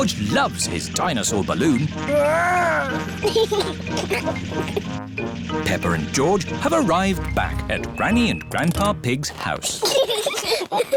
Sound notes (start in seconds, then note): 3.2 giggles; 9.8 both giggling